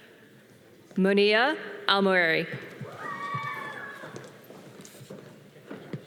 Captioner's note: audience cheering